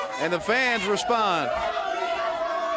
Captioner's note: crowd cheering; crowd chatter